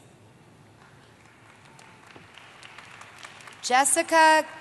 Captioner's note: applause